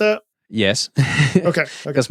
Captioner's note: chuckles